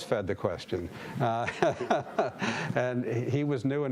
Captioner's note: laughing